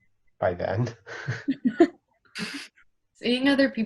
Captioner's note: group laughing